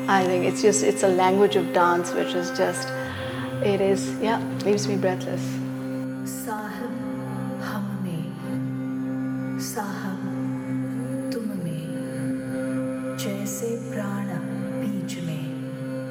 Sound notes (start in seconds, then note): 6.5 person speaks in foreign language